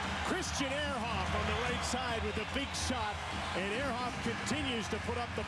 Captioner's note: cheers and applause